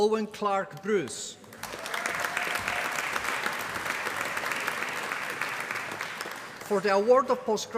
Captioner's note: applause